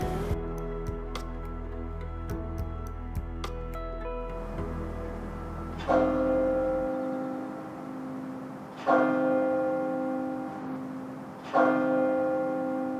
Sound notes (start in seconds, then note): 0.2 gentle music continues; 6.0 bells ringing